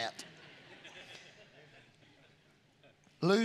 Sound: congregation laughing

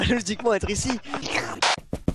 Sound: slirp

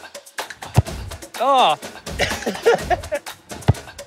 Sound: laughs

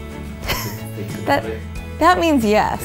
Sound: laughing

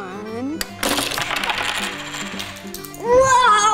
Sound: button clicks; plastic clatters

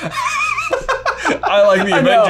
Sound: laughs

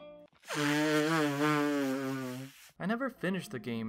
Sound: obnoxious nose blowing

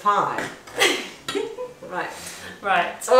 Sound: laughs

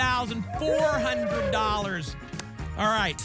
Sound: applause and cheering

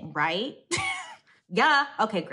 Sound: chuckles

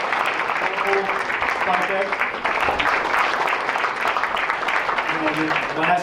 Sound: applause

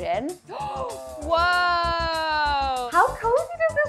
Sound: gasps

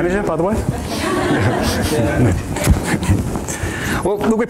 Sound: AUDIENCE: Laughter

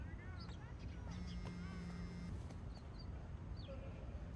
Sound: phone vibrating

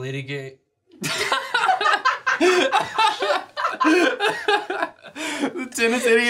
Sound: laughter

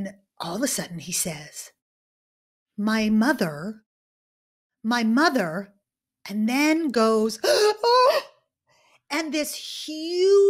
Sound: sobs

